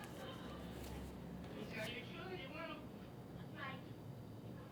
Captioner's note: TV show rambling